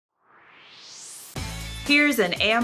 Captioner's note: swoosh